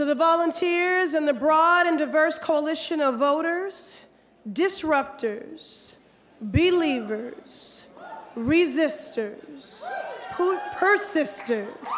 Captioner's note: applause